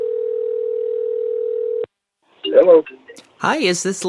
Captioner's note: phone ringing